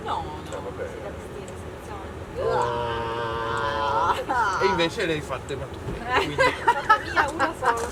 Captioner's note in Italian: risate